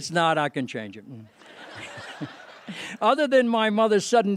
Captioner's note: laughter